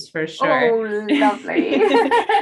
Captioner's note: laugh